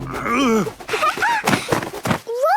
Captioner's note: laughing